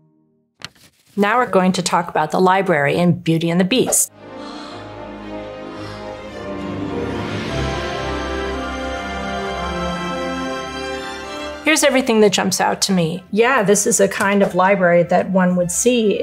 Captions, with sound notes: Now we're going to talk about the library in "Beauty and the Beast" [lively music] [Belle gasping] Here's everything that jumps out to me. Yeah, this is a kind of library that one would see